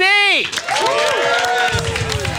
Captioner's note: audience cheering